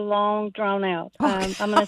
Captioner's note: laughs